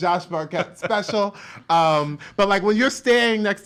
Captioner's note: laughs